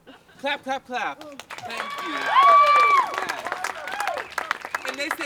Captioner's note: applause and cheers